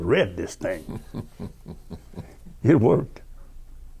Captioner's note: chuckling